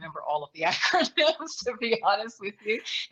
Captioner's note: laughs